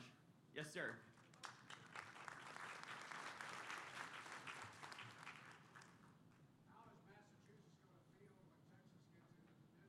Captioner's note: applause